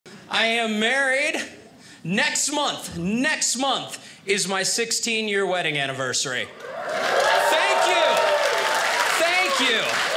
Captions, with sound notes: I am married. Next month, next month is my 16 year wedding anniversary. (audience cheers) Thank you, thank you!